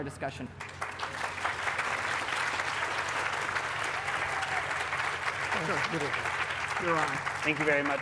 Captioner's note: applause